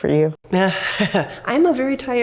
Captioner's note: laughs